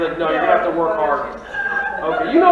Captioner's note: audience laughing